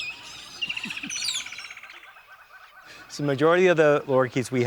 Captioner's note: chuckling